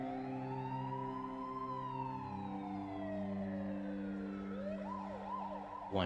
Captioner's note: ambulance siren wails